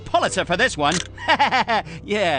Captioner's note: laughter